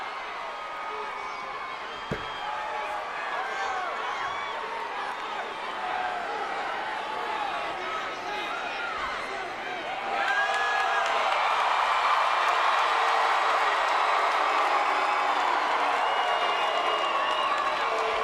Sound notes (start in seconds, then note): 9.6 crowd cheering and clapping; 14.7 crowd booing